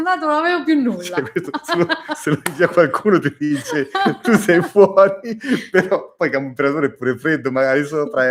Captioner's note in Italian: risate